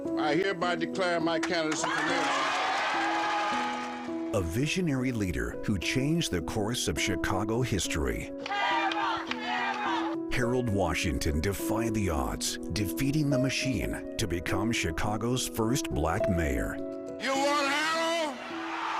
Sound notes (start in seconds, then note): 4.0 crowd cheering; 8.4 crowd